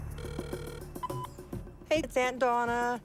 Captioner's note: phone ringing, beeps